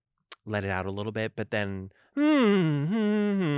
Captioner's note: hums